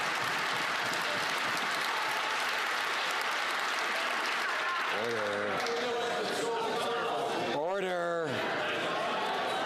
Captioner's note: some Applause